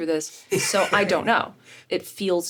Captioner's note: Richard laughs